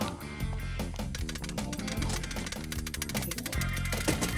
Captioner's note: clattering